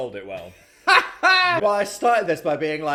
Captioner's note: laughing